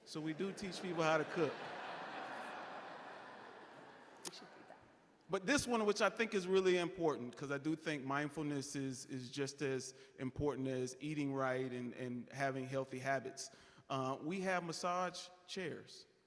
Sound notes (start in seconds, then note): 3.5 audience laughing